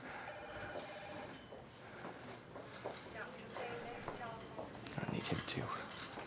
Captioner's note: phone rings; Addison pants heavily